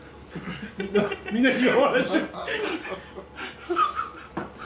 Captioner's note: laughs